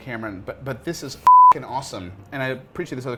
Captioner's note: beep